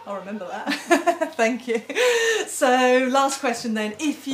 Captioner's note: both laughing